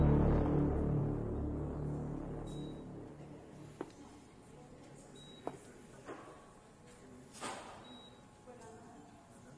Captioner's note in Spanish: Sonido de telemetría